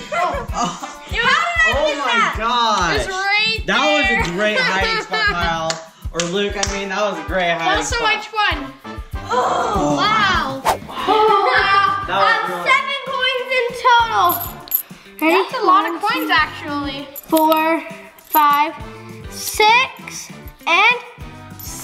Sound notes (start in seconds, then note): 0.1 laughter; 9.4 sighs